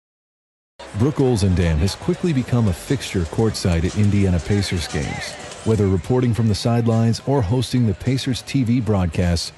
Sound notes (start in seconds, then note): 0.8 voiceover